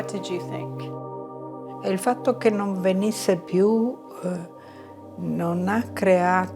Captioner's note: speaking in foreign language